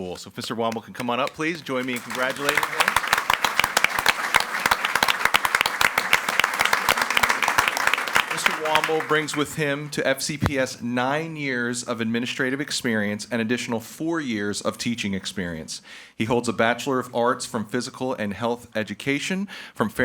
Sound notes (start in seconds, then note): 3.3 audience applauding